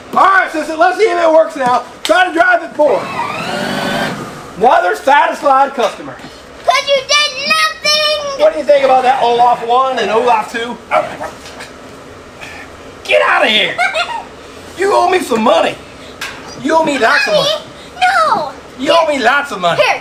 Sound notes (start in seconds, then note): 3.4 sleigh whirring; 13.6 assistant laughing